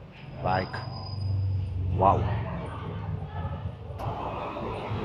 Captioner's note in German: Leute plappern